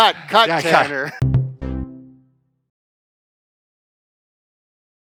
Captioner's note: rhythmic tone